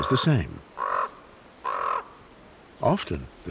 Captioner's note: bird cawing